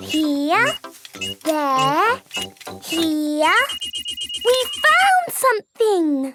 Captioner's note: giggling; beeping